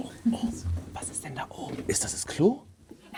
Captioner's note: whispers